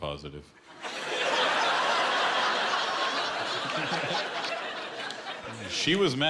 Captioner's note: laughter